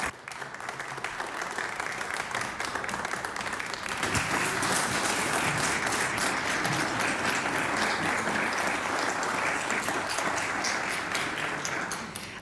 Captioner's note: applause